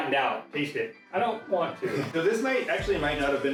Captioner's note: laughing